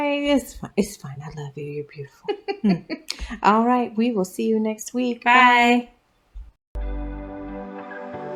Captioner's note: laugh; instrumental Music